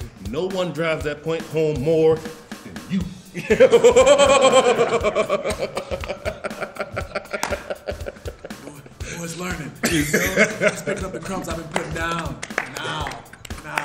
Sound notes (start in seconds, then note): 3.3 laugh